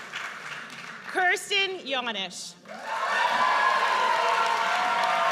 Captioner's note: audience cheers